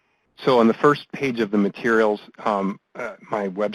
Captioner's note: voiceover